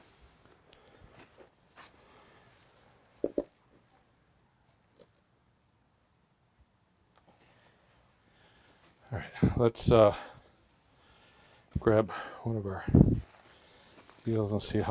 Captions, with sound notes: (level thumping) Alright, let's grab one of our deals